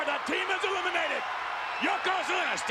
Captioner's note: spectators cheering